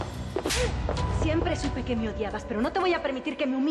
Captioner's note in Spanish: bofetada